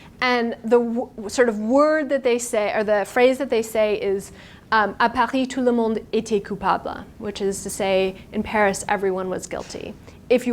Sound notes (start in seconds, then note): 4.7 speaking in foreign language